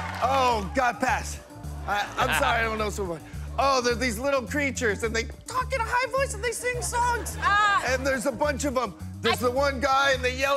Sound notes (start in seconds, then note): 5.1 high-pitched voice